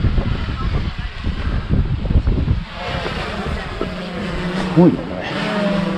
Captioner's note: there is also some noise from drones